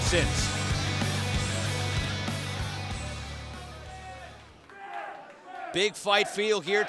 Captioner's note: fans chanting